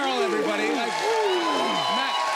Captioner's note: cheers and applause